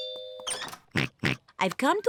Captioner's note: oinks